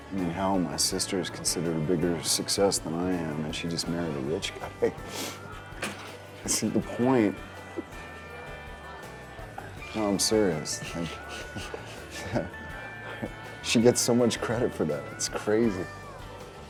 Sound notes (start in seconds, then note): 5.8 chuckles; 10.6 Drew chuckling; 10.6 laughs